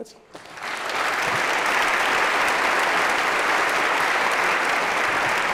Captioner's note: applause